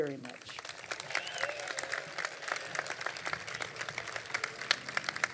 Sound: crowd applauding

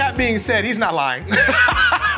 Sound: laughs

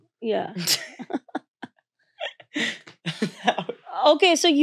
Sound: laughing

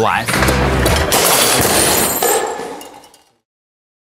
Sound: smashing

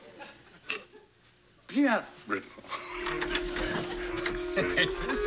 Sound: laughter

